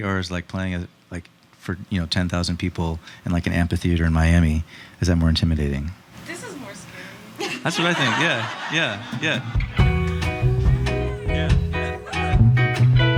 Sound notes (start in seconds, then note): 7.3 audience laughing; 9.6 mellow music